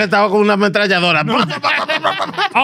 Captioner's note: speaking Foreign Language; laughing